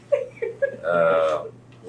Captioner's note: laughs